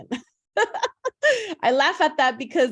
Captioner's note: laughs